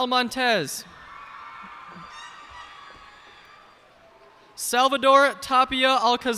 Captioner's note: cheers and applause